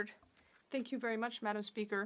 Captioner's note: speaking French